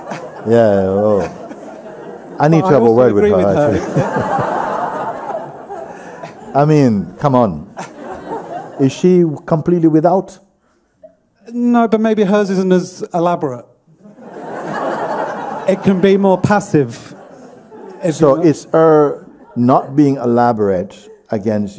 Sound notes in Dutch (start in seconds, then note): 0.0 gelach; 3.7 lacht; 4.4 gelach; 14.0 gelach